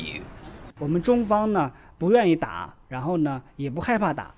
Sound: non-english speech

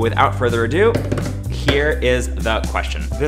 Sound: drums fingers

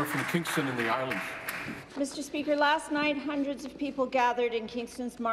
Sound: applause

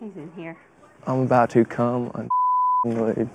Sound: beep

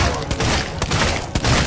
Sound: pow

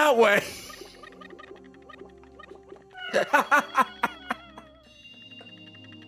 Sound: laughs

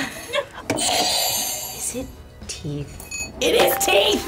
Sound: buzzer rings; laughs; buzzer rings

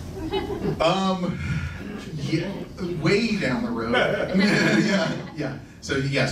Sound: laughs; laughing

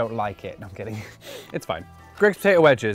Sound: laughs

